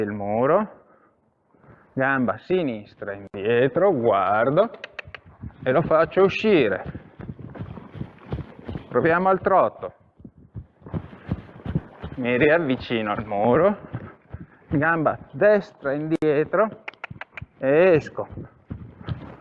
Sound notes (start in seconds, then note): 16.7 cluck